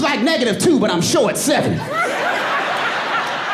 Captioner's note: audience laughing